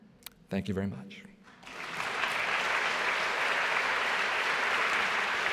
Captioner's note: applause